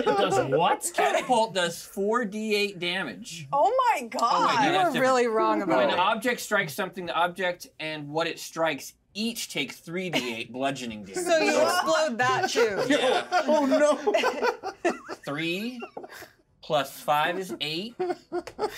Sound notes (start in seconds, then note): 10.2 speaker chuckles; 12.2 laughs